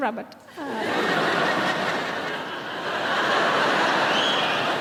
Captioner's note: laughing